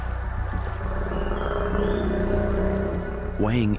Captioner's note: crocodile grunts